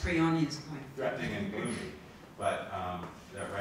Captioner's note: laughs